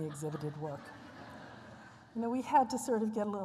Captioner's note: laughter